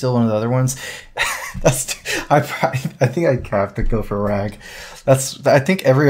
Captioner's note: laughs